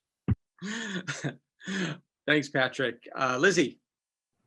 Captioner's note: chuckling